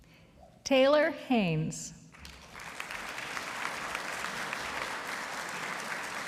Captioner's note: audience applauding